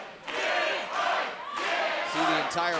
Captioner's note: fans chanting